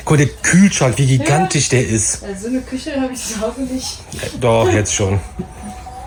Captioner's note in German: schnauben